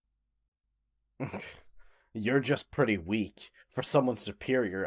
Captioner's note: scoffs